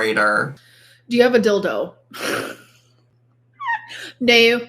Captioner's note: laughs